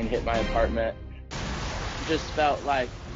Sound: explosion

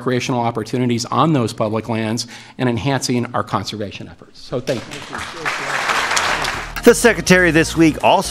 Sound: applause

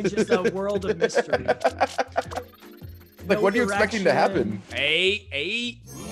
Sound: laugh

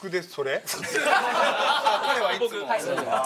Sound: laughter

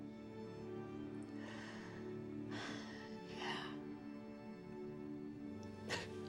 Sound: sighs; crying

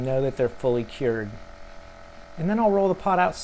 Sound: pressure pot whirring

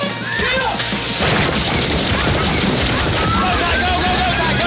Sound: on-lookers yelling

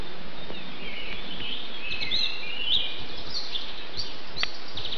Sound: birdsong

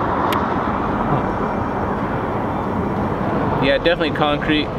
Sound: hums

